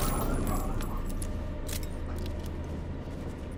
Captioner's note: gun firing